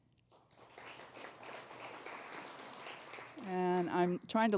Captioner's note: applause